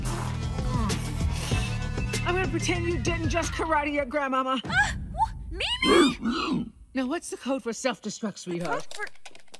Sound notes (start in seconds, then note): 0.7 shadowy figure grunts; 5.8 gasps; 5.8 grunts